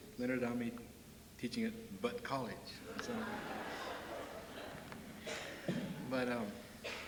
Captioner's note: laughter